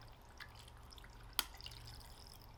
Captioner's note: glug glug glug glug